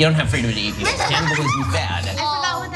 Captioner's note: laugh